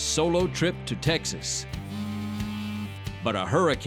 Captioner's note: cell phone vibrates